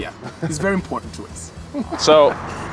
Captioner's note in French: rires